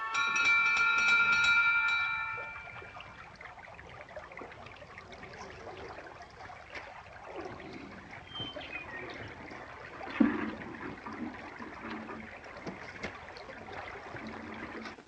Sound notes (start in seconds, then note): 0.0 door bell ringing; 3.4 water running